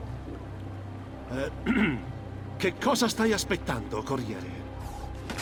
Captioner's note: coughs and directs himself to Ezio in disguise